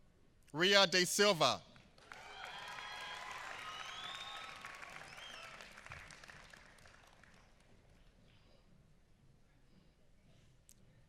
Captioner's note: applause